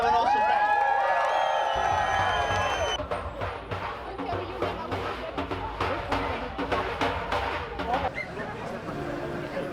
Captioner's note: crowd cheers; drums